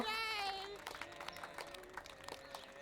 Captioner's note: subdued clapping